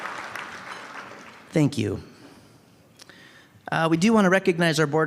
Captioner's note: applause